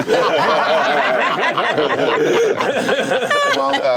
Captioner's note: laughter